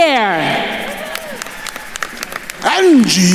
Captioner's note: attendees cheering and applauding